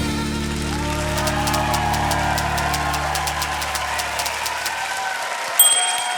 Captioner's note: typewriter keys tap; typewrite bell dings